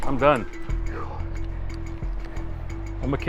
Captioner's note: breathing